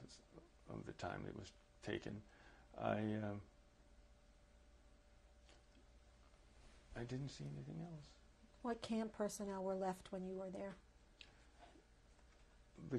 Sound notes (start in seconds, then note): 3.2 pauses for 3 seconds